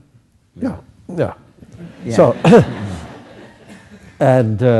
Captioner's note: laughter